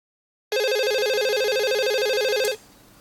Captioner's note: phone ring